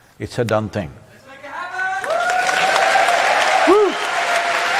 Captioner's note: cheering/Applause